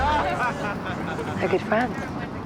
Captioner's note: crowd laughs